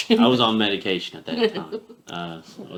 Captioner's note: laughing